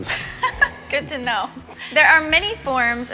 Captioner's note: laughs